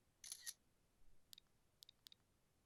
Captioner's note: camera snapping; phone clicking